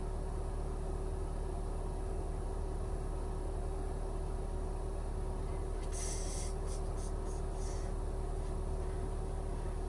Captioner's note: car